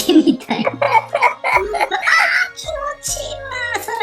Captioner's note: laughs